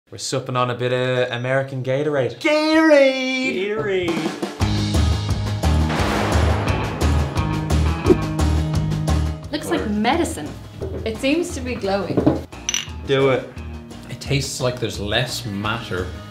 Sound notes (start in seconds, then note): 2.5 Californian accent; 3.5 midwestern accent